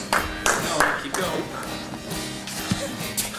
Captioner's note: audience applauding; soft rock music